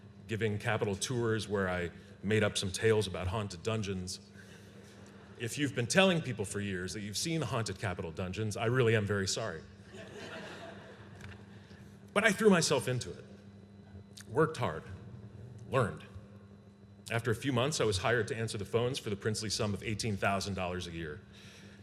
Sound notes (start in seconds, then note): 9.8 laughter